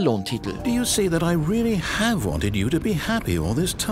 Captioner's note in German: Ingame-Stimme sagt etwas auf Englisch